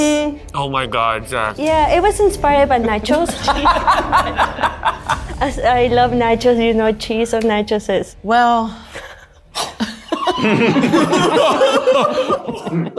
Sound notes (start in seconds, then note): 2.8 all laughing; 8.9 all laughing